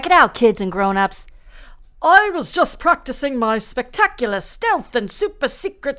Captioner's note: in British accent again